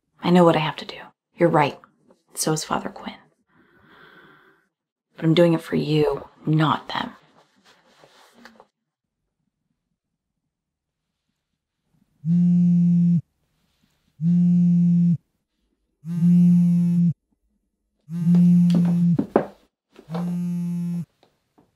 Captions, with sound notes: I know what I have to do. You're right. And so is Father Quinn. But I'm doing it for you... not them. [PHONE VIBRATING] [CLAMP VIBRATING]